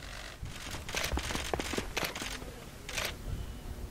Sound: panther galloping

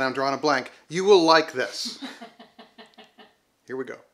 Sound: woman laughing

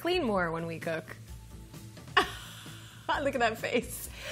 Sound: chuckles

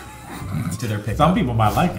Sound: laughter

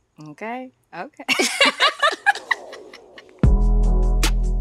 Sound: laughing

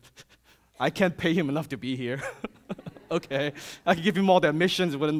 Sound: chuckles

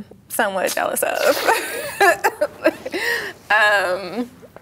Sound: both laugh

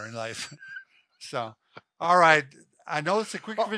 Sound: laughing

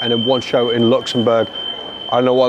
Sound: shrill beeping

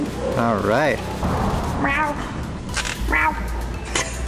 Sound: mimicking a cat meow

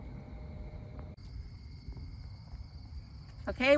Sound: insects chirping

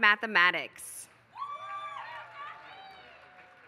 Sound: applause

